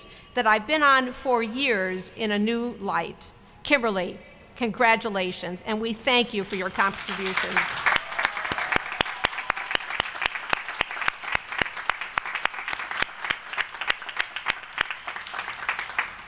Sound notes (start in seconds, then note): 7.8 applause